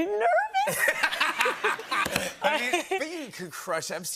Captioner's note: laughter